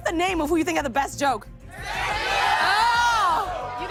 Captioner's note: Audience shouting "Sergio"